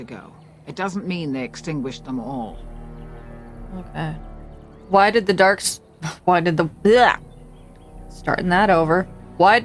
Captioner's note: stuttering my words here